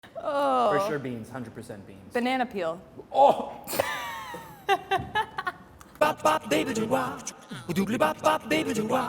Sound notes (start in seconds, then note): 4.3 laughing; 6.0 upbeat music